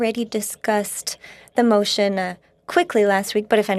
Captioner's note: speaking French